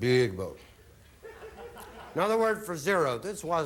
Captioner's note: audience laughing